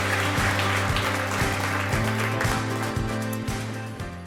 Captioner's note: applause